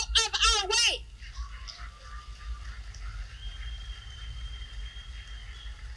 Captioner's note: applause